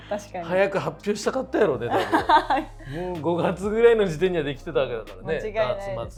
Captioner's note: laughs